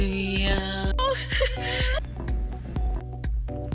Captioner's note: crying; upbeat music